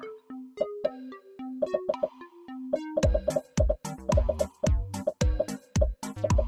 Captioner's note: upbeat music; popping